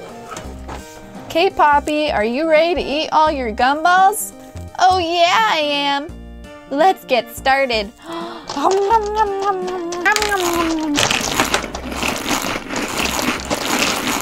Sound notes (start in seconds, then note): 8.0 chewing sounds